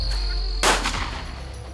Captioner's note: turkey sounds; gunshot